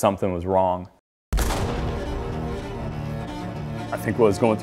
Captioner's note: starting pistol fires; dramatic orchestra music